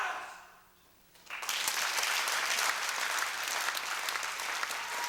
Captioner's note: applause